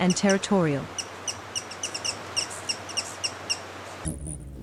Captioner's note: birds chirping; bird's wing flapping